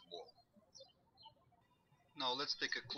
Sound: birds chirping

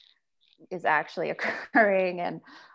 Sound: chuckles

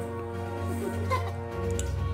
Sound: laughs

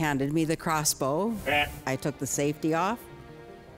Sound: Blent bleating

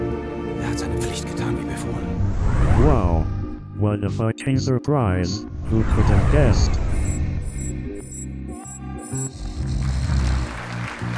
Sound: duke snores

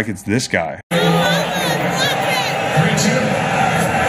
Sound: crowd cheering

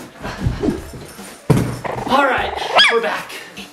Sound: puppy yelps

